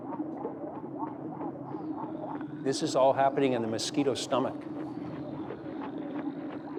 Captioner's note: gurgling